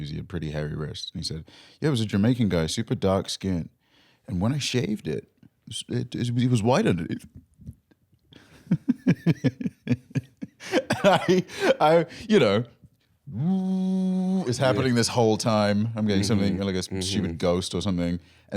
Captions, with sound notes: He had pretty hairy wrists. He said, "Yeah, he was a Jamaican guy. Super dark skin. And when I shaved it, he was white underneath." (chuckling) (laughing) I—I, you know... (buzzing) is happening this whole time. I'm getting like a stupid ghost or something.